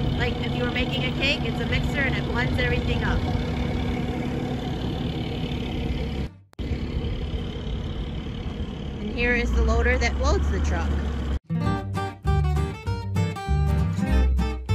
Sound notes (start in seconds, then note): 3.7 feed truck engine running; 11.4 upbeat guitar music